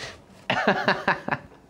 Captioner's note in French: rire